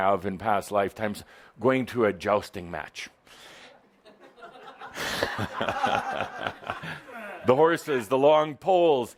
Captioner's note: some laughter